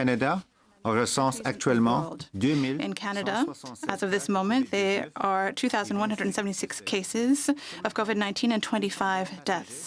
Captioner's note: speaking French